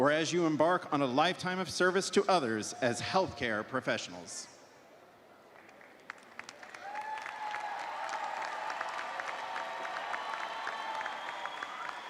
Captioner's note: cheers and applause